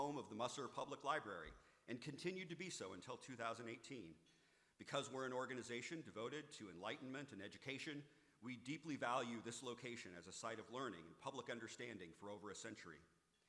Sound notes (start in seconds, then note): none